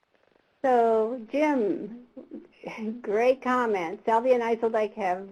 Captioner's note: voiceover